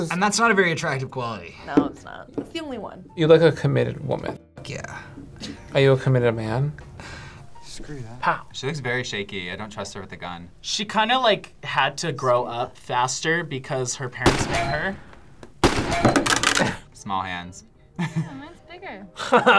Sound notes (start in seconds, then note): 7.2 sighs; 14.2 gunfire echoes; 19.1 laughs